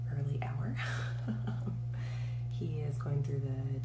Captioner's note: giggles